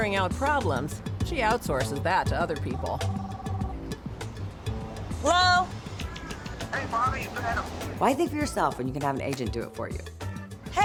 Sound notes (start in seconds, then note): 2.7 cell phone rings